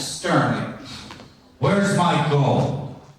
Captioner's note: sternly